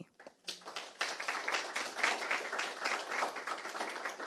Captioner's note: audience clapping